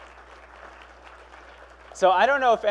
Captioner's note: applause